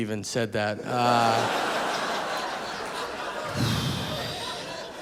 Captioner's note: audience laughing